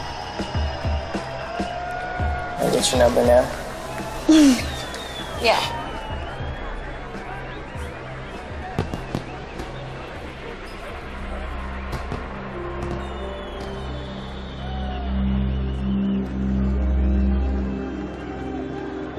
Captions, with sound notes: - Can I get your number now? - (giggles) Yeah. (fireworks popping)